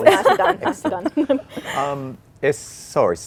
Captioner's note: laughter